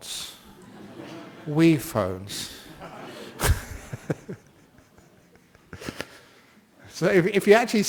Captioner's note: laughter